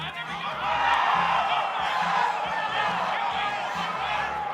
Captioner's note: cheering